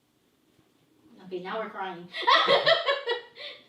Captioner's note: laughs